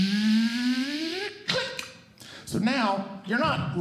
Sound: ”Click”

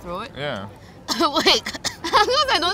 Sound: cough

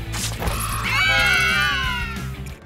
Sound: screaming

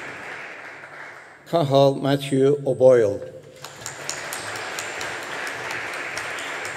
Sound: audience applauding

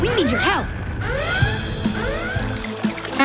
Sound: alarm blaring

